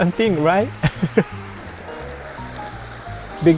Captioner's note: chuckles